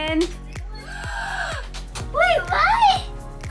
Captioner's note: gasping